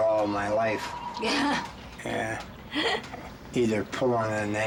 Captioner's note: laughs